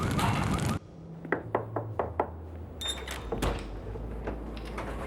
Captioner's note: knocking on door